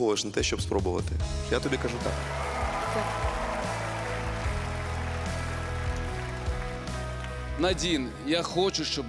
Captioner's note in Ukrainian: оплески